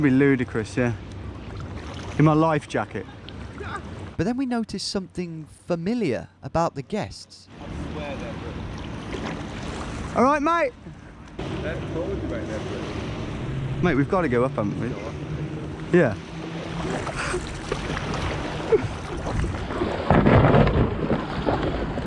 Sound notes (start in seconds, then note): 3.6 laughing; 17.1 laughing; 20.3 stones crunching